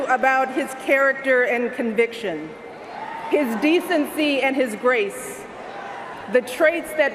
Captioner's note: cheers and Applause